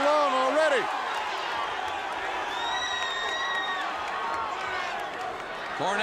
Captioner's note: crowd cheering